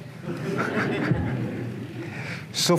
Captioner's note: laughter